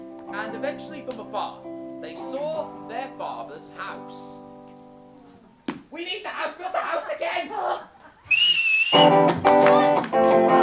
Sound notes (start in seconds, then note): 8.2 sharp whistle; 8.9 lively music